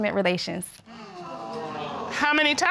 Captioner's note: audience exclaiming